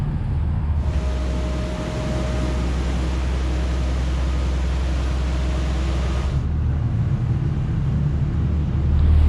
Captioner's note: engine Noise